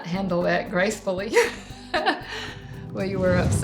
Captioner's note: laughing